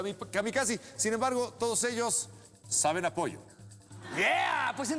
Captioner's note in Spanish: risas